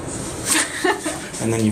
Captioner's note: laughs